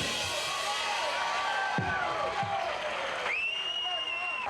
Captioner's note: audience cheering